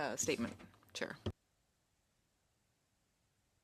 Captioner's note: speaking French